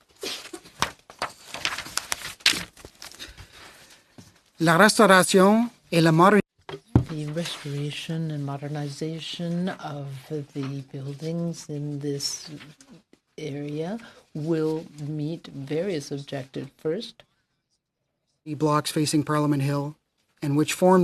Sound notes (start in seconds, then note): 10.3 speaking French